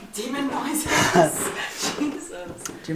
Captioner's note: laughter